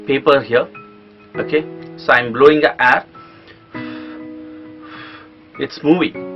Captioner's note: blowing air